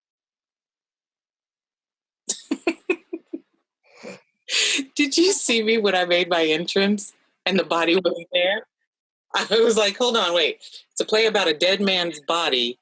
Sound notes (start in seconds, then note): 5.3 laughs